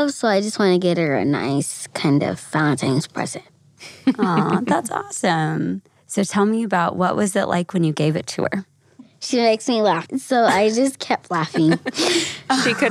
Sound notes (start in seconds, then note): 3.9 laughs